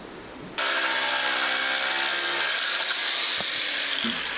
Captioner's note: metal grinding